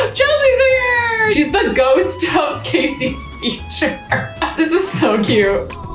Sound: laughs; upbeat hip-hop music

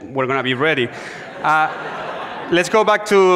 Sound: audience laughs

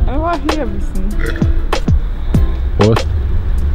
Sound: burp

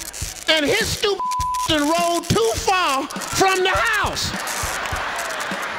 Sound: beep; audience laughing

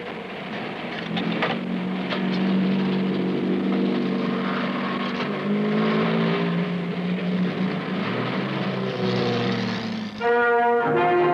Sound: car started, transmission engaged

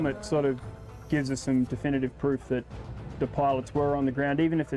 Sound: voiceover

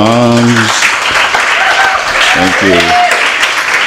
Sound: applause

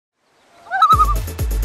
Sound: loon call

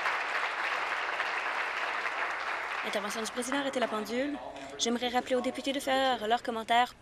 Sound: applause

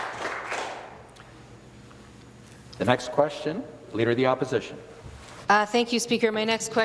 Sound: some Applause

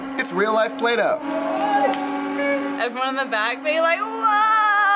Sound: people exclaiming

